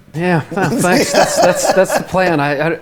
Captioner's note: laughs